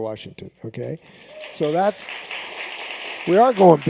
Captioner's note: cheers and applause